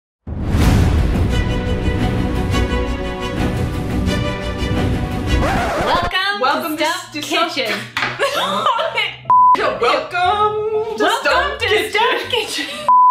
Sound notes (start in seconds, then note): 0.3 exciting music; 8.2 laughs